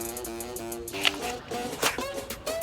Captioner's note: upbeat music; Crunch